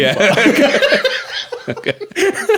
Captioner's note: laughing